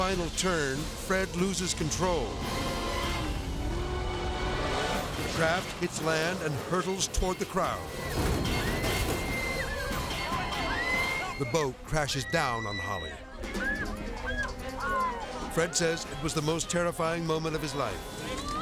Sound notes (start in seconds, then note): 2.0 edgy dramatic music; 3.8 boat buzzing; 3.8 dramatic whoosh; 7.8 people screaming; 7.9 suspenseful music; 11.8 people screaming